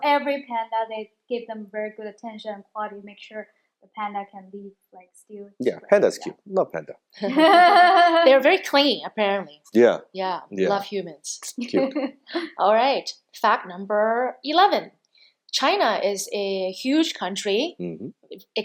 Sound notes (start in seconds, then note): 7.2 laughing; 10.5 sucks teeth